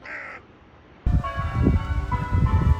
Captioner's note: loud caw; church bells